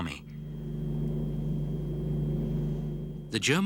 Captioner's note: engines roaring